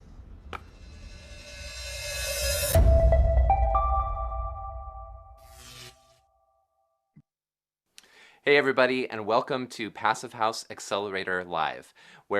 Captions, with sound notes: (upbeat jingle) (electricity crackling) - Hey, everybody and welcome to "Passive House Accelerator Live!",